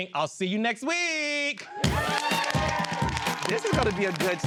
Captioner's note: cheering and clapping